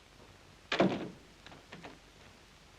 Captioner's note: door closes